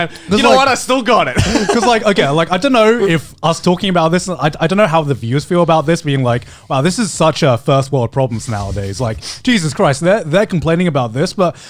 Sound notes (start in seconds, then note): 1.3 Joey laughing